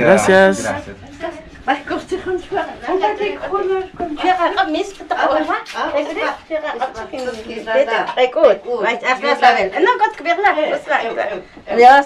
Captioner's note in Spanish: hablando en idioma k'iche'